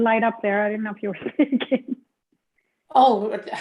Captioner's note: laughs